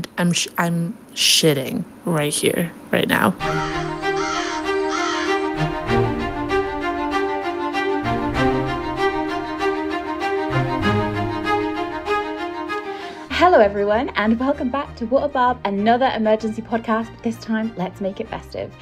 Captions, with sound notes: I'm shitting right here, right now. (theme music) (crows cawing) (theme music) - Hello, everyone! And welcome back to What a Barb, another emergency podcast. This time, let's make it festive.